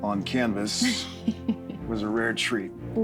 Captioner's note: laughter